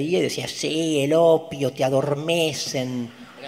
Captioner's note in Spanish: distorting his voice